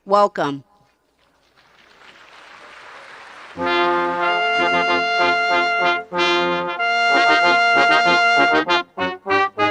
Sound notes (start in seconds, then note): 4.1 audience applauding; 6.5 ceremonious music